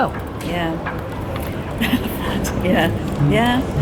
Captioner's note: laughs